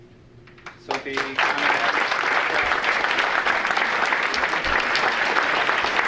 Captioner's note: audience applauding